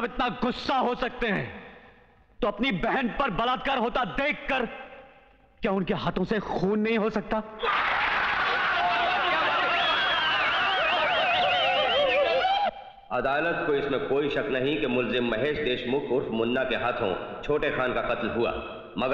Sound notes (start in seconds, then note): 7.6 applauding